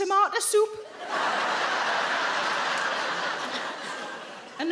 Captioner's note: audience laughing